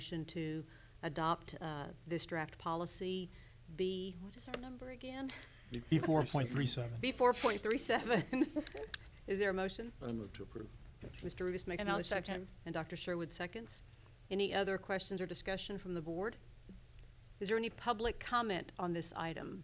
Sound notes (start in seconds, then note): 8.0 laughs